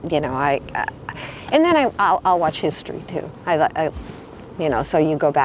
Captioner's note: stammers